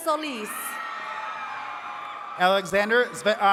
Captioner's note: attendees cheering